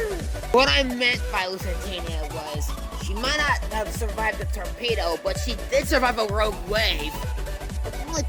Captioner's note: regular voice